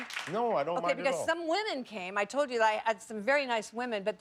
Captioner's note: cheers and applause